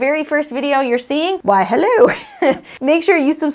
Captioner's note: laughs